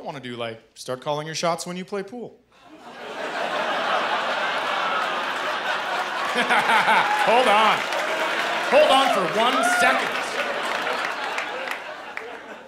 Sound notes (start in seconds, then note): 2.4 laughter, groans and applause; 6.2 laughing